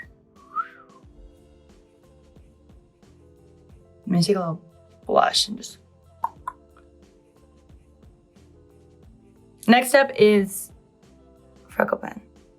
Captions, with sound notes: I'm gonna take a little blush and just [beatboxes]. Next step is freckle pen.